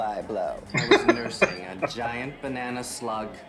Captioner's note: laughing